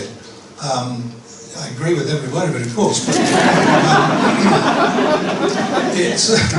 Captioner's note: laughter